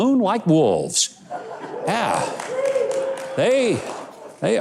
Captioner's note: audience laughs